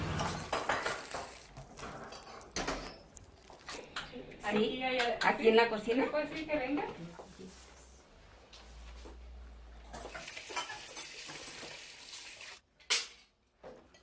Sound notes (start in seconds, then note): 4.3 women speaking Spanish